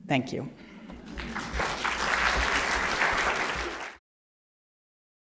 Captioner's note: applause